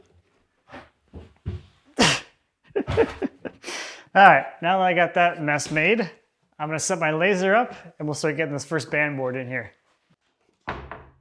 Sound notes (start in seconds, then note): 2.7 laughing